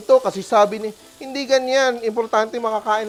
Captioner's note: sizzles